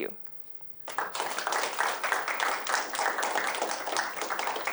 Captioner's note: applause